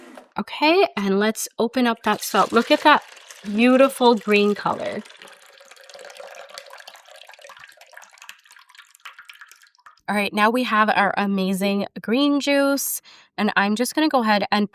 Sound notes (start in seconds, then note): 5.1 juice splashing